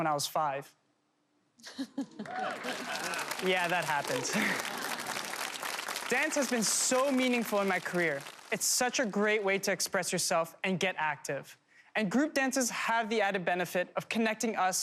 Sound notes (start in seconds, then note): 1.6 laughter; 3.0 applause